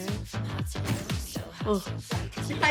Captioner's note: sighs